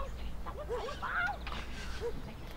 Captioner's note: voice rises in anger